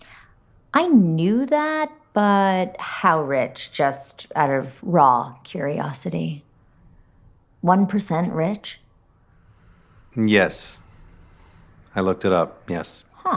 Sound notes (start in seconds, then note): none